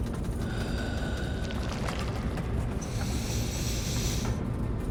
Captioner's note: breathing deeply